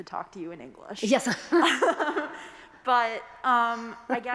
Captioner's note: chuckling